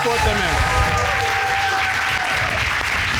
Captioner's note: cheers and applause